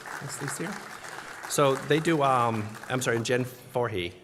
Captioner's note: applause